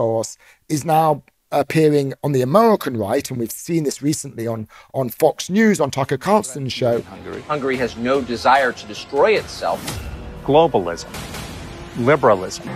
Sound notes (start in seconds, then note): 6.8 soundbite of archived recording